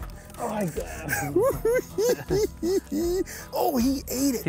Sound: cackling

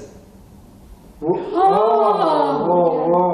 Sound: both gasp

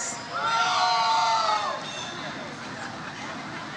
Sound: audience cheers

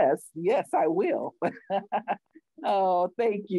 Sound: laughs

